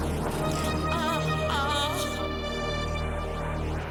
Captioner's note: suspenseful music; woman moaning